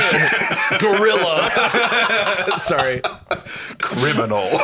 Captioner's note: laughing